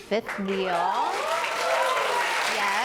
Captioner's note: cheers and applause